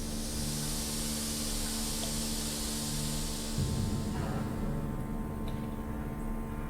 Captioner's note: steam hisses; ominous music